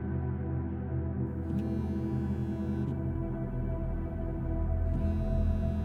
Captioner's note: mobile phone vibrating